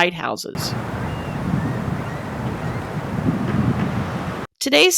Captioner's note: nat sound of wind over the ocean